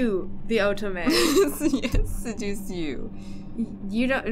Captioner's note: laughing